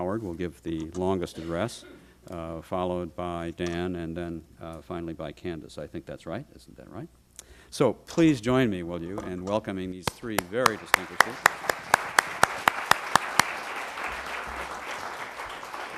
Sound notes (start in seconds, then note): 10.3 applause